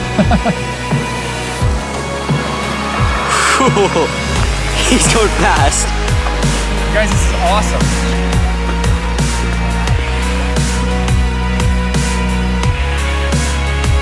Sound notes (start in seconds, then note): 0.0 laughs; 3.0 laughs; 9.1 majestic music